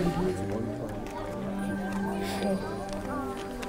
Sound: indistinct chatter

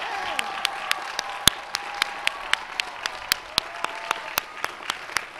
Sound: applause

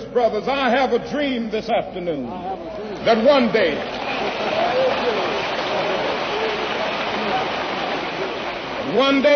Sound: applause

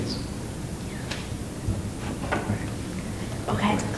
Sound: whispering

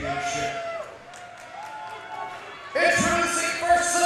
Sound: crowd cheering

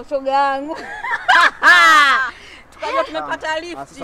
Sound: chuckles

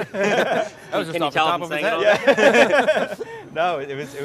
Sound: group laughing

